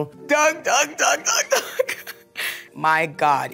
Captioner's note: chuckles